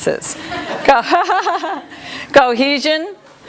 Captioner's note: laughter